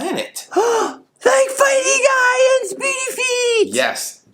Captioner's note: gasp